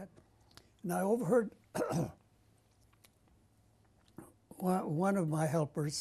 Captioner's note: pauses for 3 seconds